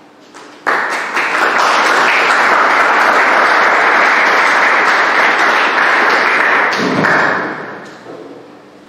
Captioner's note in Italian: Applausi